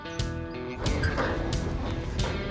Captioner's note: trailer squeaking